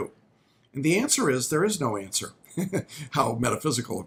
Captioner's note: laughs